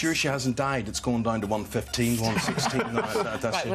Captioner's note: laughter